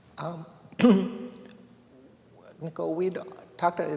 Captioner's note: clears throat